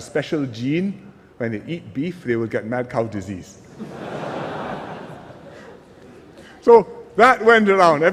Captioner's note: laughter